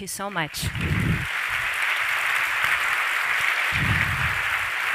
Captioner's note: applause